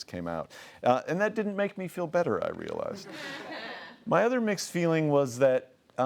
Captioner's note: laughing